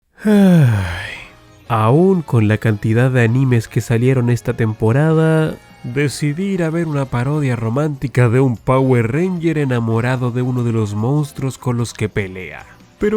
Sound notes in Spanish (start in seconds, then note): 0.1 suspiro